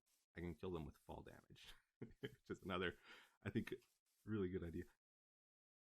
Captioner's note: chuckle